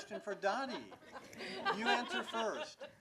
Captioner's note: laughing